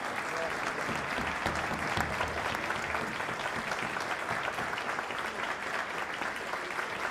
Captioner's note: audience applause